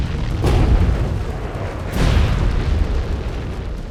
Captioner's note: loud boom; weapon blasts; intense music